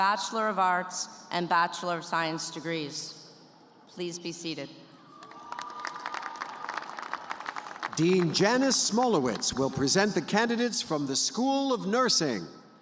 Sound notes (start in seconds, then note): 7.8 applause